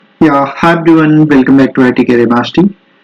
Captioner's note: Hindi